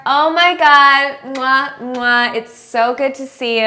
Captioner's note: kissing sounds